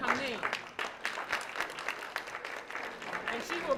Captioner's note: applause